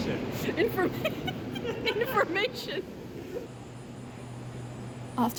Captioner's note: laughing